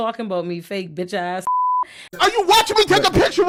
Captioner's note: beep